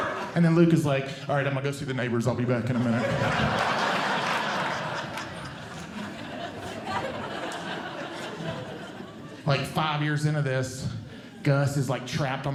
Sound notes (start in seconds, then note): 2.6 audience Laughing